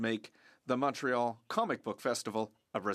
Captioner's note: speaking French